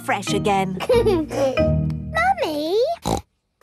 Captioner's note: giggles; snorts